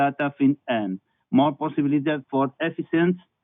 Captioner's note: foreign language